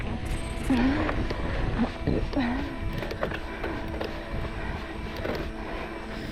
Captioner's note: panting; moaning